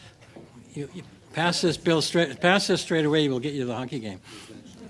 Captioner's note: laughter